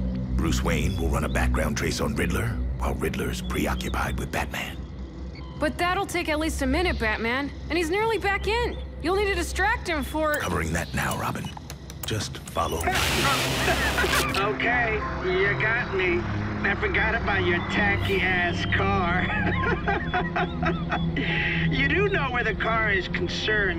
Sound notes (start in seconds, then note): 13.0 laughing; 19.2 laughs